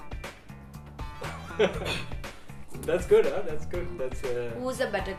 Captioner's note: laughing